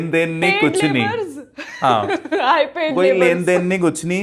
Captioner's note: laughs